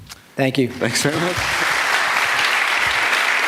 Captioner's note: applause